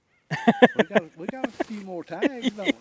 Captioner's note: laughing